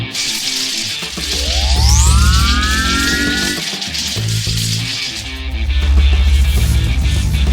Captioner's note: electricity crackling; force field whirring